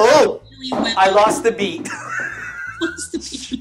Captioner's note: laughs